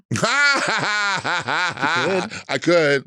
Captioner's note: Latrice laughing